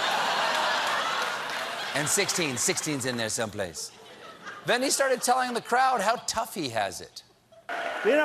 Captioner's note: laughter